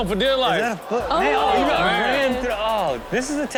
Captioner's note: audience gasps